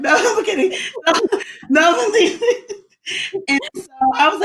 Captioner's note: laughs